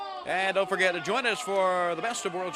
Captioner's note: crowd chatter